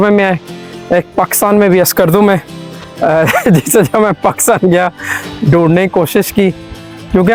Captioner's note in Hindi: हंसी